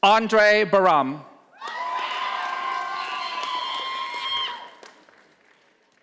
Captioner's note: audience applauding